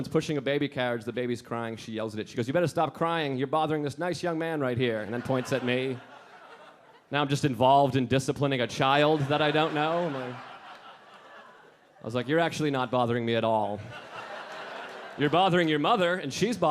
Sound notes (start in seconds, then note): 4.9 audience laughing; 8.7 audience laughing